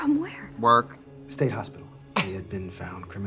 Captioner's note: Katya laughs